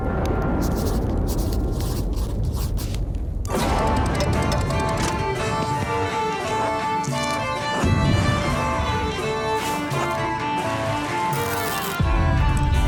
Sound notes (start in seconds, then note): 0.0 thunder crashing